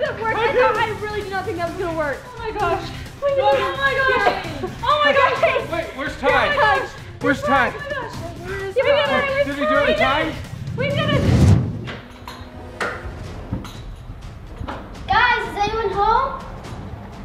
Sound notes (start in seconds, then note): 11.1 door opens